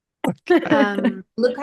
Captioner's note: laughter